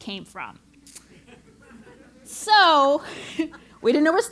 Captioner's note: laugh